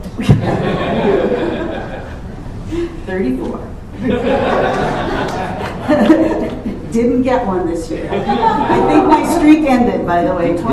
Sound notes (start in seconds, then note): 0.2 laughter; 4.0 laughter; 8.0 laughs